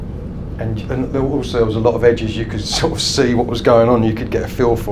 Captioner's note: laughs